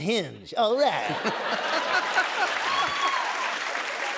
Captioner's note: cheers and applause